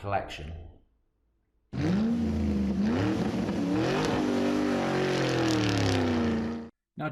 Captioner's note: sound of revving car